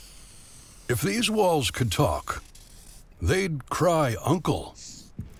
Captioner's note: voiceover